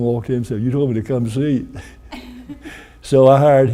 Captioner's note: chuckles